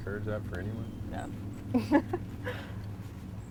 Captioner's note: laughs